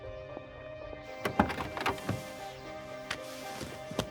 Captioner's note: car door opens